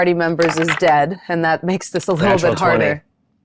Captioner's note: dice clattering